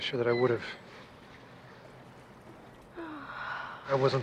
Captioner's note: sighs